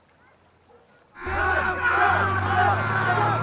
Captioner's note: shouts from miners